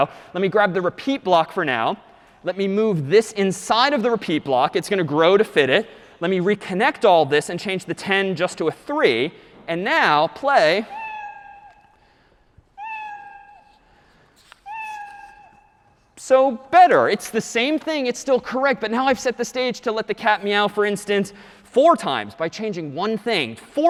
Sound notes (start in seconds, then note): 11.0 three slow meows